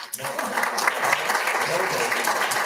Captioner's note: all applauding